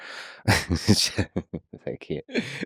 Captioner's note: Lex laughing